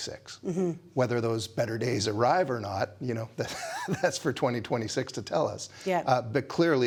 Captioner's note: laughs